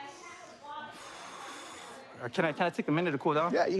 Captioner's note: exhales